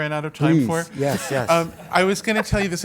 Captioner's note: laugh